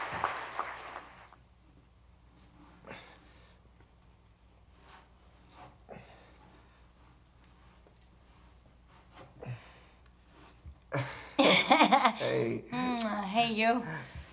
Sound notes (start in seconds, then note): 3.3 Curtis grunting; 11.4 Marie laughs